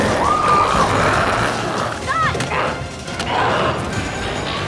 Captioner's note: group screaming